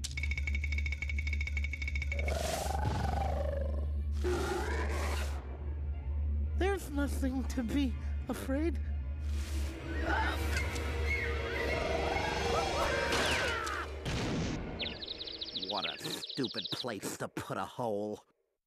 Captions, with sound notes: [teeth chattering] [growling] [roaring] THERE'S NOTHING TO BE AFRAID...OF. [growling] [screaming] WHAT A STUPID PLACE TO PUT A HOLE.